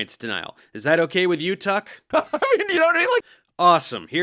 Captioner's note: insane laugh